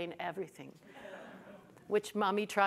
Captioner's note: audience chuckles